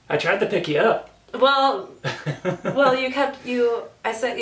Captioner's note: laughs